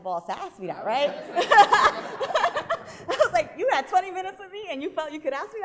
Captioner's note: laughing